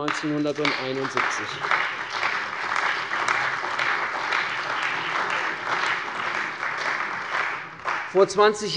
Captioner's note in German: Beifall bei der CDU und dem BÜNDNIS 90/DIE GRÜNEN